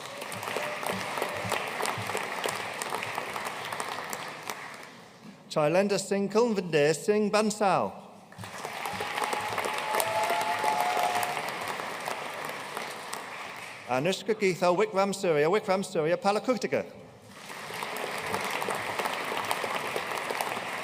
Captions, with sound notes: (AUDIENCE CHEERING AND APPLAUDING) Chailender Singh Kulvinder Singh Bansal. (AUDIENCE CHEERING AND APPLAUDING) Anushka Geethal Wickramasuriya Wickramasuriya Palakuttige. (AUDIENCE APPLAUDING)